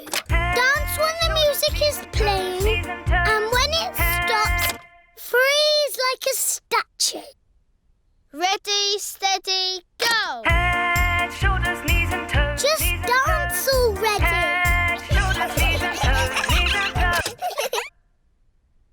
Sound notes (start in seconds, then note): 0.1 music playing on speaker; 4.5 music stops; 15.0 giggling; 17.0 music stops